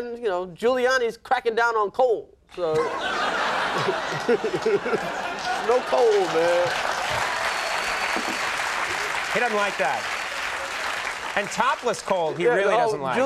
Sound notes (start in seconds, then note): 2.7 audience laughs; 7.2 audience applauds